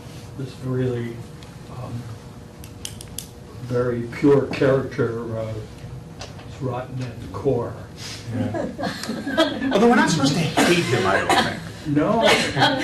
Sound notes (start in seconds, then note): 8.4 laughter